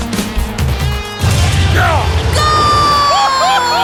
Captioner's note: ball whooshing; grunting